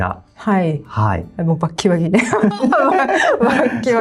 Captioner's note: laughs